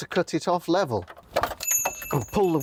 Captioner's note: ting